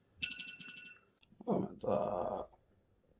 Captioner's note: morning voice